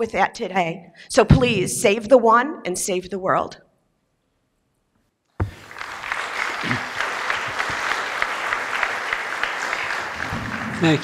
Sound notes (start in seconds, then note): 2.8 applause